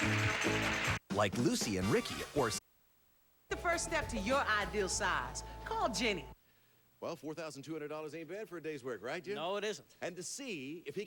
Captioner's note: audience applauding